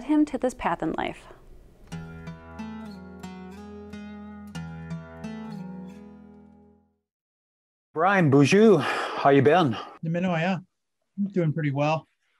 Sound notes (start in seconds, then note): 1.8 gentle music; 8.3 speaking in a foreign language